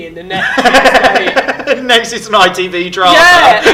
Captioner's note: laughing